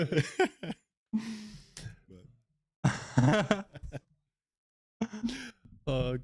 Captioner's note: laughter